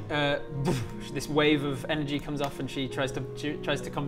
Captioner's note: boof